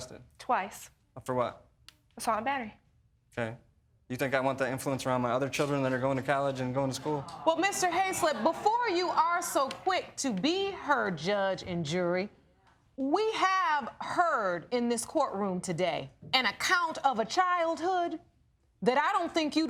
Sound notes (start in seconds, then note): 8.8 audience groaning